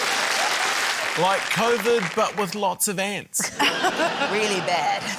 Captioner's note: chuckles; laughter